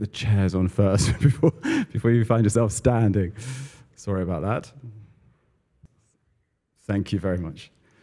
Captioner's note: laugh